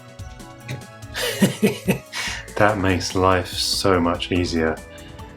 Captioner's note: laughing